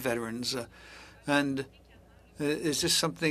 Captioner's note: speaking French